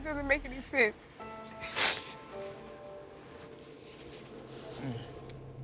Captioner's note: sniffles